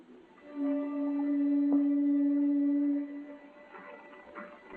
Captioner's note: conch shell blowing